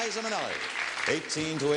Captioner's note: audience clapping